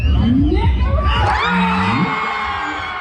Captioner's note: loud cheering